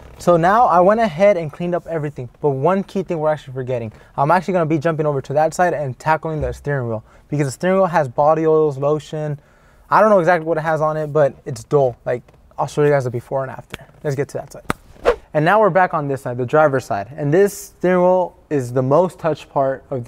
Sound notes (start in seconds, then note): 14.8 whooshing